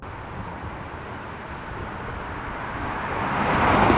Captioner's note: car passing, distant traffic